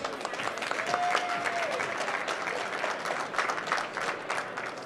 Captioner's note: applause